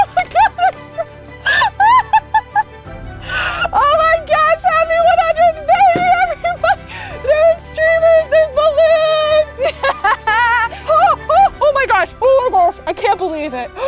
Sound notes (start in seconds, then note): 1.4 laughing